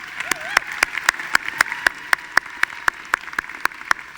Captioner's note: audience applauding